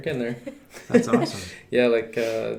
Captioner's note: laughing